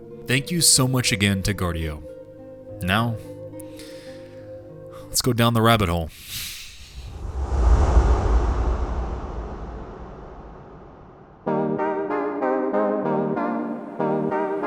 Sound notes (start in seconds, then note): 6.8 wind whistling; 11.5 lighthearted music